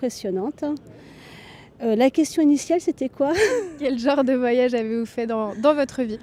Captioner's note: laughter